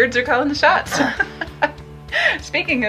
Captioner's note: laughs